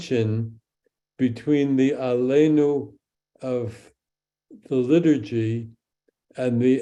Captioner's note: speaks in Hebrew